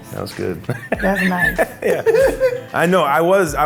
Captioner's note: laughs